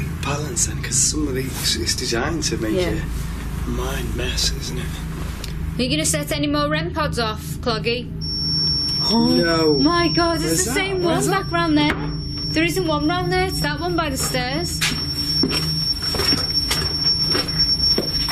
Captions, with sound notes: - It's designed to make your mind a mess isn't it. - You gonna set any more remparts off cloggy? (beeping) No way, it's the same one back round there. There isn't one there, it's that one by the stairs. (beeping)